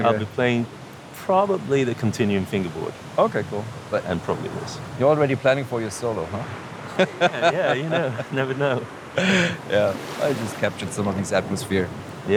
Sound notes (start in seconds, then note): 6.9 laughs